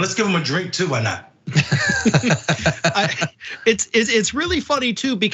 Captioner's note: laugh